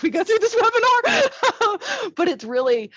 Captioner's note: laughs